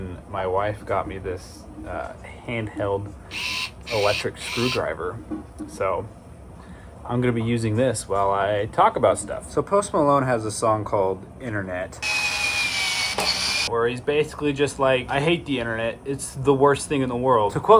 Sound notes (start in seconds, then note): 12.0 screwdriver whirring